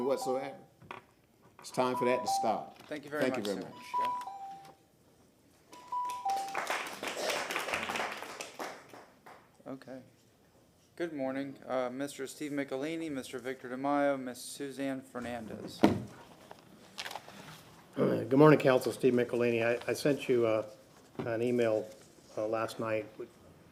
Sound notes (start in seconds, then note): 9.8 applause